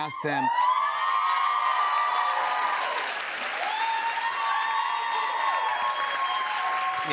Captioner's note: cheers and applause